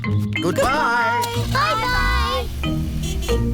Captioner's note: horn honks